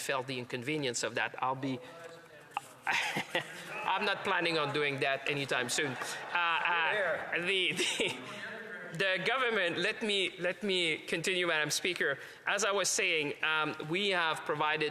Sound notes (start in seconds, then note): 8.0 off mic